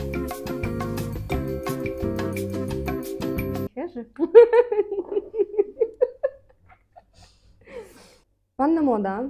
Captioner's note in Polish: śmiech